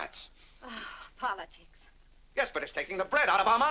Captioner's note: Vinnie sighs